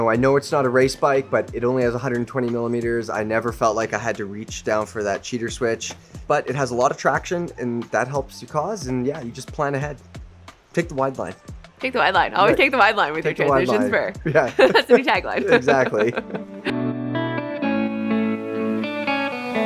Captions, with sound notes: I know it's not a race bike, but it only has 120 millimeters. I never felt like I had to reach down for that cheater switch, but it has a lot of traction and that helps you. Cause, and yeah, you just plan ahead, pick the wide line, - kick the wide line, always kick the wide line with her choice - Yeah (chuckles) - To be tagline. (laughs) - Exactly. (up beat music)